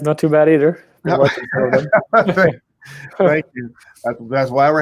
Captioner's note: both chuckle